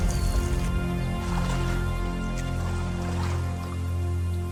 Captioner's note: paddling sounds